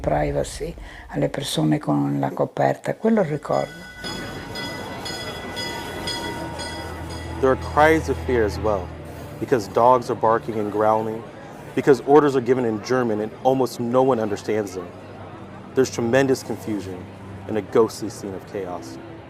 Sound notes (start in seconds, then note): 3.3 bell tolling